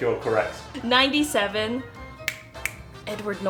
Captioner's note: snapping